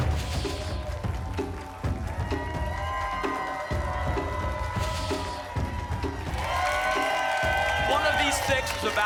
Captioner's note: applause and cheering cont